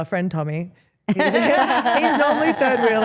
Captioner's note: Steph laughs